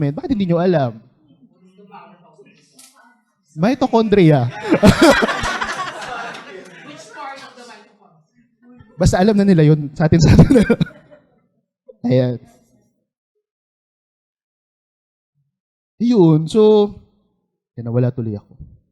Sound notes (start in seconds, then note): 3.9 laughter